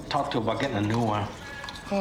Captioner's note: none